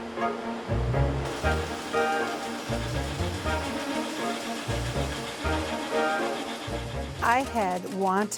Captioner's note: upbeat music; machines whirring